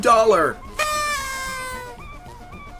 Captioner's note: party noisemaker